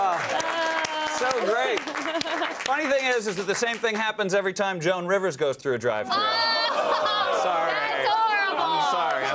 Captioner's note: applause